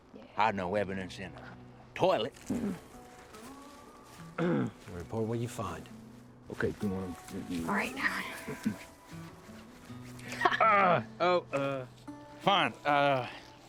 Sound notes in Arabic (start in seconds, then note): 4.3 ينظف الحلق; 10.5 آهات